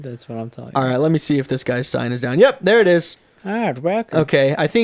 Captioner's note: old man voice